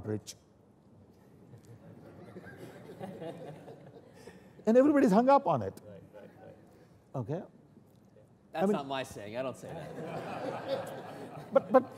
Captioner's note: laughter